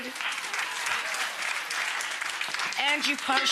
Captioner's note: crowd clapping